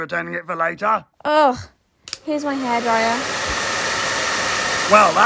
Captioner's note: hairdryer